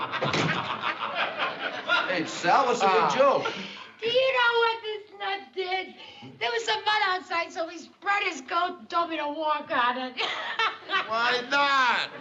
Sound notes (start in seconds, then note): 0.0 laughter; 10.2 laughs